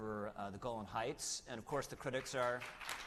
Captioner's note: applause